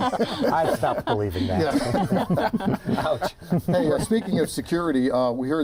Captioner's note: laughter